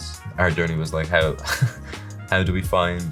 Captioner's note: laughs